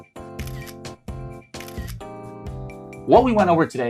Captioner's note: cheery music; camera shutter clicking